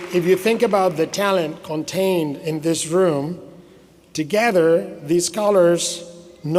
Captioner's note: applause